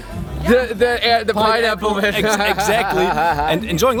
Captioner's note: laughing